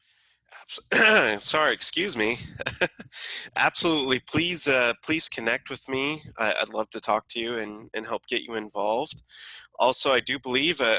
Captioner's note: ahem ahem